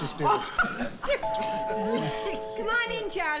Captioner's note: doorbell